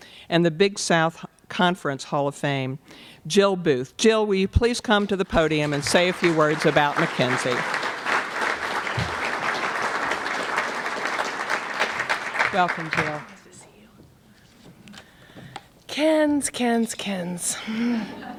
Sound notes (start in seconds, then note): 7.6 applause